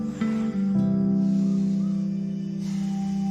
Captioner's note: sighs; hold music plays